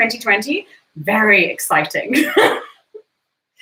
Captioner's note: laughs